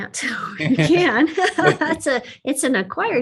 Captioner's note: both laugh